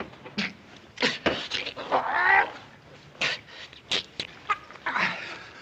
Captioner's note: Marion gagging, garbled shouts